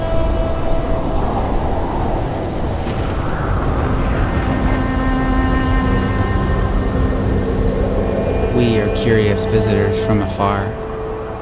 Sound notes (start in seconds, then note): 0.8 wind whistling